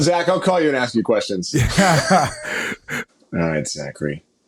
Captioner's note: laughing